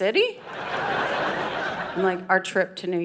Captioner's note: audience laughing